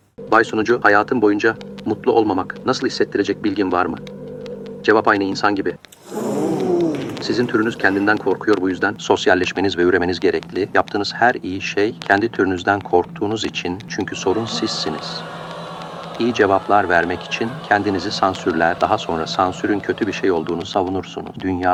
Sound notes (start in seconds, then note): 5.9 expressions and sounds of surprise from the audience; 15.1 audience booing